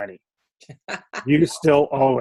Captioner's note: laughs